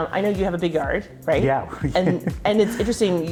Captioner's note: laughing